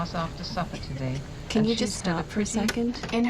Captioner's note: tape Player Stops